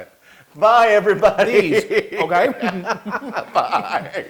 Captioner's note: laugh